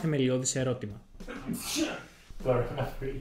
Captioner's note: sneezes